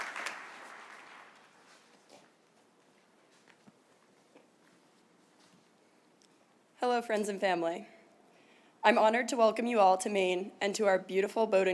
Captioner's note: cheers and applause